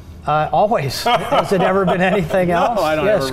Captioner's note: laughing